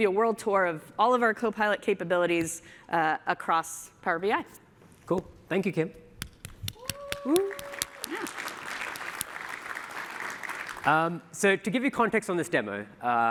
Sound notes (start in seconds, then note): 9.3 applause